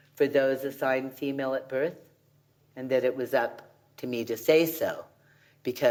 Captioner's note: none